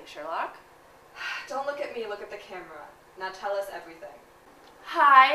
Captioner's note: sighs